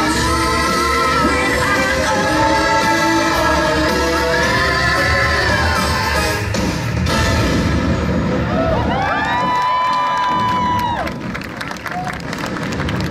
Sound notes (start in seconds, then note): 9.0 applause